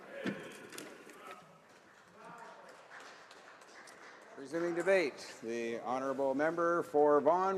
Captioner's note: speaking italian